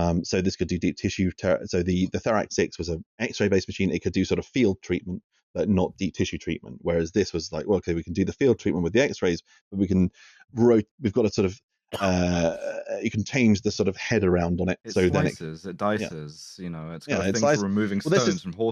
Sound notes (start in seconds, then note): 9.7 stumbling & stammering